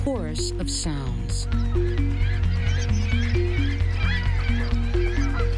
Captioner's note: birds calling